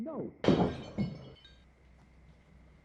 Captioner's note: object shattering